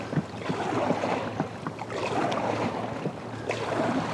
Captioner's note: water splashing